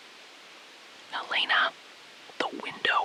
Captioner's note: SILENCE — 5 sec